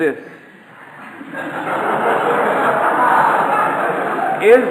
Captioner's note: audience laughter